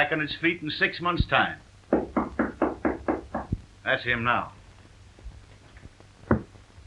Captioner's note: knocking at door